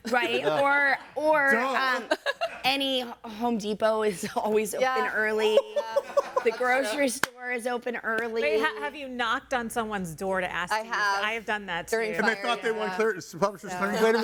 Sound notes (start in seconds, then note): 5.6 laughing